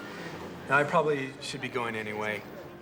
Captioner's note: none